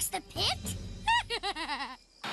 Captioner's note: Sierra Giggles